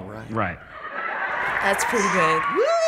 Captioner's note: audience laughs